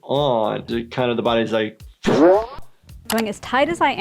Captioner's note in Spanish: Woom!